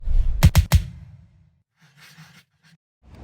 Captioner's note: air whooshing; pencil scratching